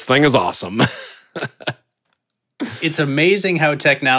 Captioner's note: laughing